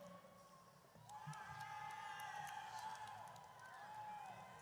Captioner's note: audience cheers